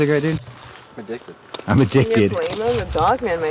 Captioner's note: mocking